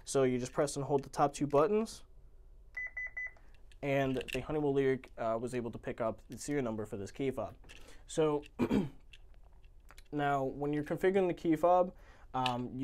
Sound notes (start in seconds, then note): 2.7 keypad beeps